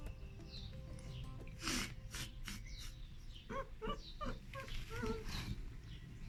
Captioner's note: laughing